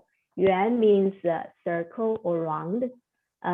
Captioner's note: speaking Chinese